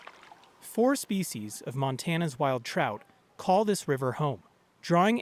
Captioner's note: voice-over